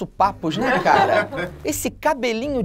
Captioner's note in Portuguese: risadas